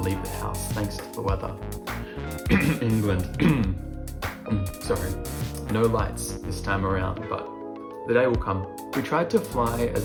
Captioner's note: cough